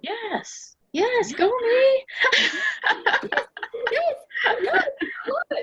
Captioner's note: laughing